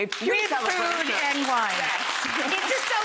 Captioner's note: audience clapping